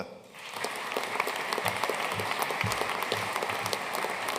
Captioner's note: audience applauding